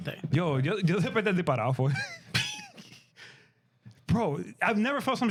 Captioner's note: speaking In Foreign Language